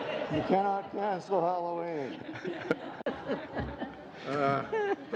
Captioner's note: laughter